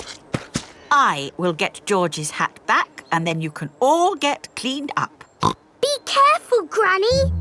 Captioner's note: snorts